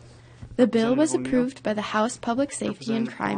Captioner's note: voiceover